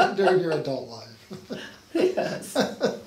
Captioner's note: laughing